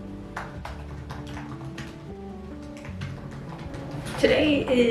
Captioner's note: relaxing music; keyboard typing